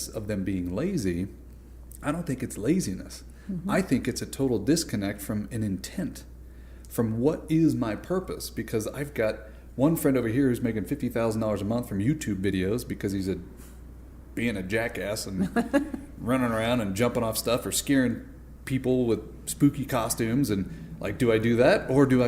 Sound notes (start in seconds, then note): 15.4 laughter